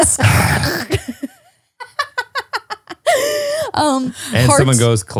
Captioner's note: laughing